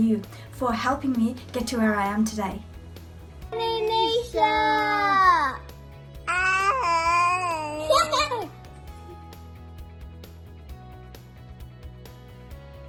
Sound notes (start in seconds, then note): 6.2 child laughs; 8.7 soft instrumental music